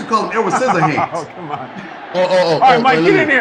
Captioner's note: laughing